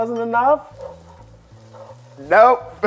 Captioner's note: batter sizzling